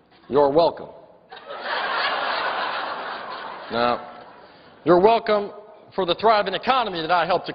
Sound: laughter

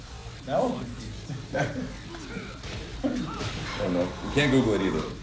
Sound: laugh

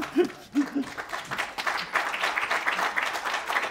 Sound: applause

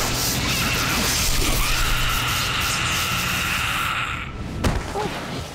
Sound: screaming

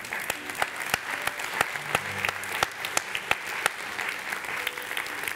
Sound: congregation applauds

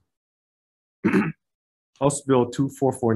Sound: clears throat

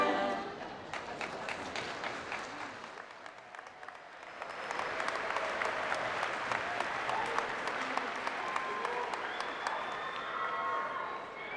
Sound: applause

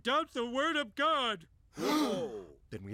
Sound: gasping

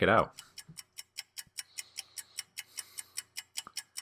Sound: clock ticking

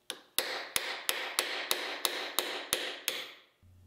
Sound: mallet banging

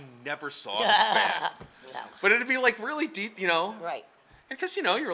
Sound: laughing

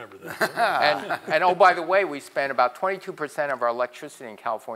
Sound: laugh

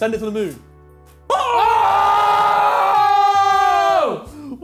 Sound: screams

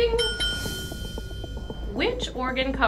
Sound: dinging

